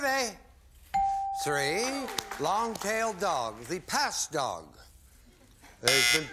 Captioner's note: buzzer